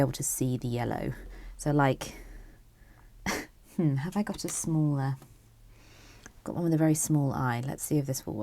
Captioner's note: chuckles